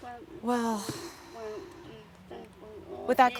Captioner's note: sighing